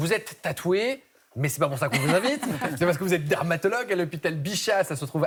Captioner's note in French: rires